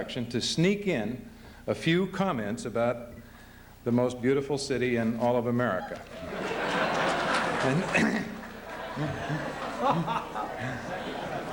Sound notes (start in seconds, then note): 6.0 laughter